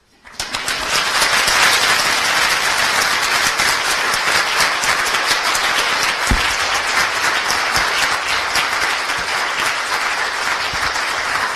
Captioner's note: applause